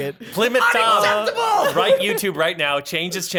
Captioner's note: laughter